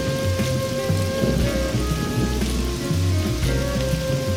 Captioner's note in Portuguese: trovoadas